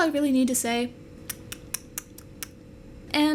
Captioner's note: contemplatively clicks tongue